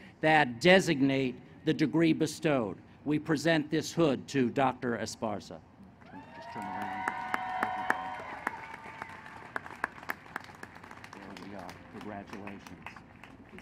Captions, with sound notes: that designate the degree bestowed. We present this hood to Dr. Esparza. [ Applause and cheering ] >> Congratulations. All yours.